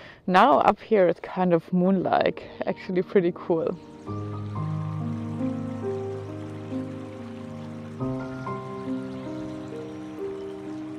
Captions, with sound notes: Now, up here it's kind of moon like. Actually pretty cool. (gentle music) (water flowing gently)